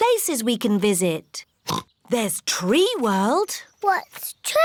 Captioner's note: oinks